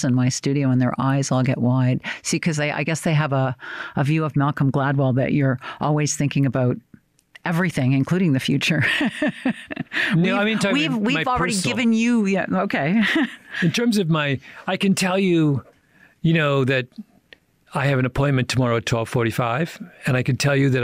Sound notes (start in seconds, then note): 8.8 laughs